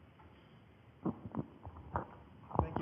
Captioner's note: microphone noises